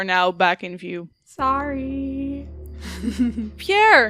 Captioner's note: chuckles